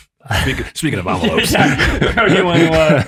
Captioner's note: group laughs